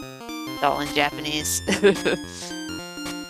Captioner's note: laughs